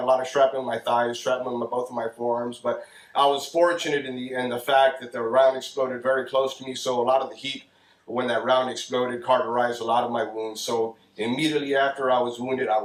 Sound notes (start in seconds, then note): none